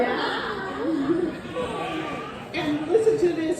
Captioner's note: laughs; laughter in audience